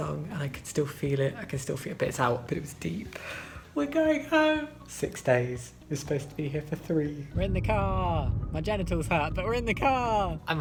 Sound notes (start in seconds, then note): 3.6 higher pitched voice